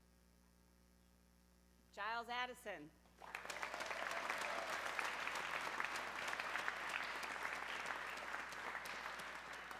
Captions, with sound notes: Jiles Addison, (audience clapping)